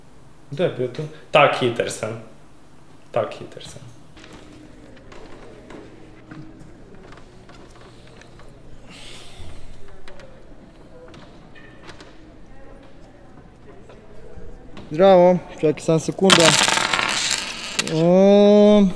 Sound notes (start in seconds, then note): 16.1 sound of coins